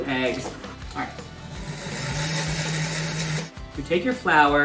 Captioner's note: blender buzzing